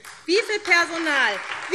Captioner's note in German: Beifall SPD